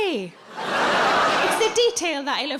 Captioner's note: audience laughing